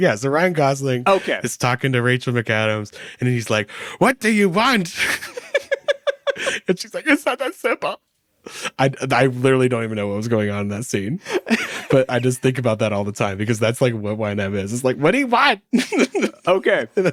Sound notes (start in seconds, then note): 4.9 laughing